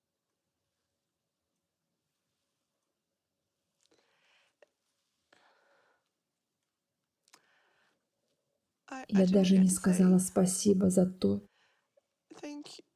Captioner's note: silence